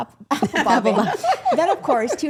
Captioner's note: women laughing